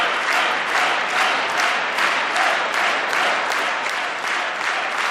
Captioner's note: applause